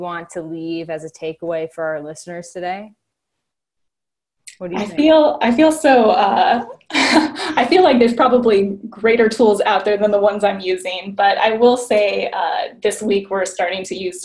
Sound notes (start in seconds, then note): 6.5 laughing